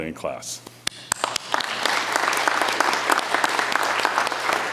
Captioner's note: audience applauds